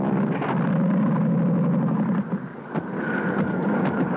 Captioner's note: plane engine sputtering